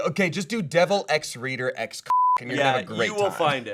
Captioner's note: beep